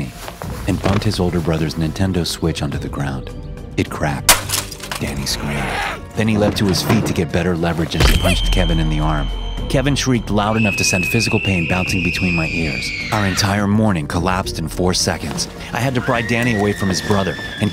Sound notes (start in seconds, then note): 4.3 screen shattering; 5.6 Danny screaming